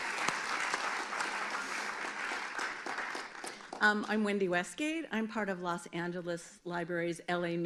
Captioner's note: applause